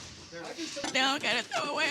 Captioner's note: dishes crashing; crying